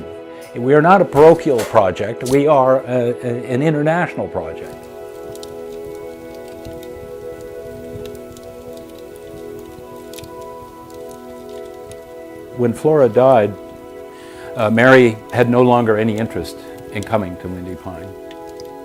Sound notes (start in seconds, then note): 6.2 fire crackling